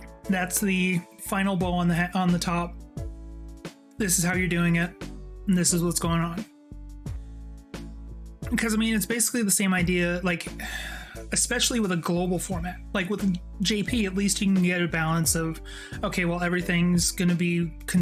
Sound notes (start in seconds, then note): 10.6 sighs